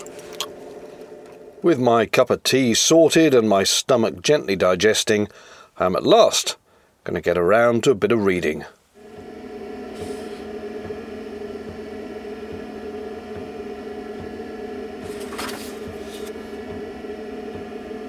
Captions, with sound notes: With my cup of tea sorted and my stomach gently digesting, I'm at last going to get around to a bit of reading. (Sound of heater blowing hot air)